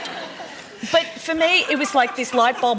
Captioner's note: laughter